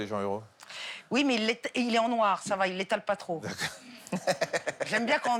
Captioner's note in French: rires